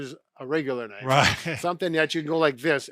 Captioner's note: chuckles